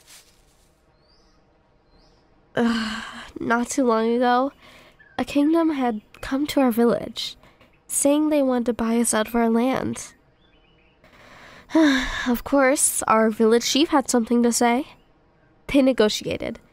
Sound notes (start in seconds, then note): 0.0 walking Stops; 2.8 groan; 11.2 sigh